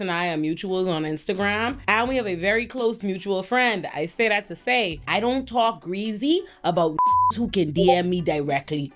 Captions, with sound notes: and I are mutuals on Instagram. And we have a very close mutual friend. I say that to say, I don't talk greasy about (beep) who can DM me directly.